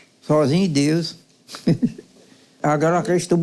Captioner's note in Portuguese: Risos